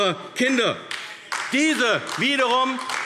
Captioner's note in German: Beifall AfD